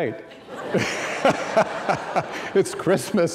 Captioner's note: laughing